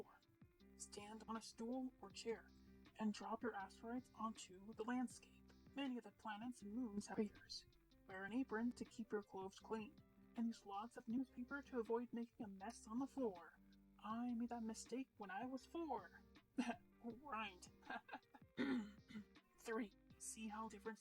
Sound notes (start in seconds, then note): 18.5 clears throat